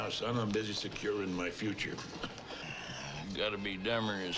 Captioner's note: chuckles